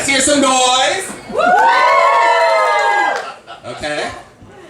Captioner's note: audience screams